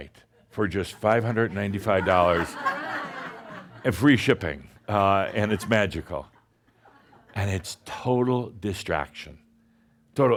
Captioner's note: laughter